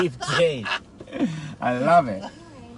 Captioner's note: laughing